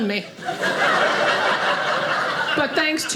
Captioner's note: audience laughing